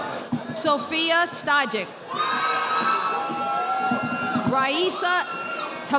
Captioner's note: audience applauding